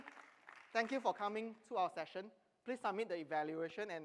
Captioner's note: applause